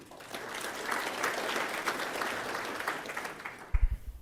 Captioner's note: applause